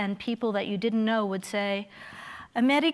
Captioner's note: speaking in foreign language